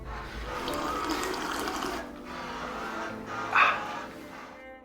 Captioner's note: tea slurping